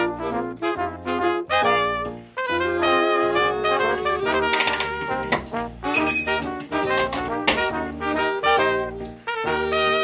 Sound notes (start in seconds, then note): 4.5 rattling noises; 5.9 clinking